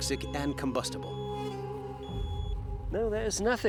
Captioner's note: beeping continues